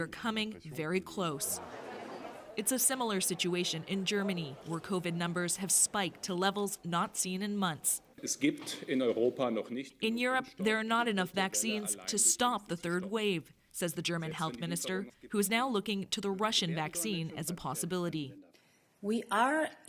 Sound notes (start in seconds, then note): 12.9 speaking Foreign Language